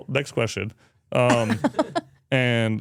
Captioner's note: speaker laughs